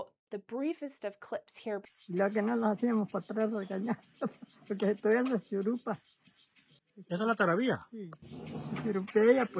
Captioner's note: Spanish